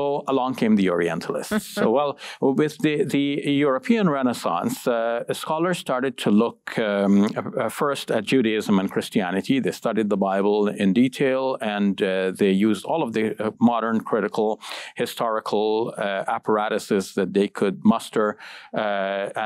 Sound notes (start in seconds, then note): 1.5 giggles